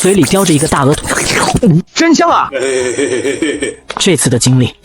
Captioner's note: chuckles